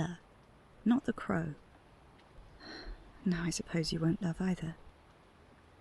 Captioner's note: a sigh